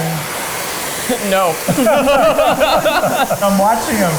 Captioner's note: both laughing